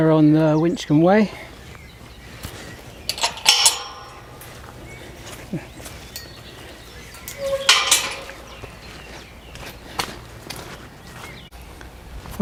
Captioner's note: sound of gate closing